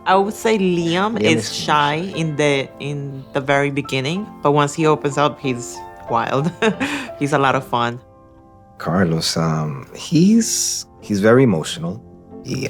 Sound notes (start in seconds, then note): 6.4 laughs